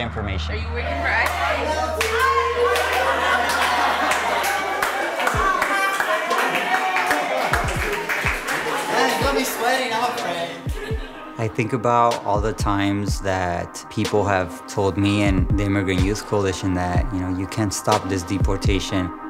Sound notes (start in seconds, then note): 3.4 all laughing; 4.8 applause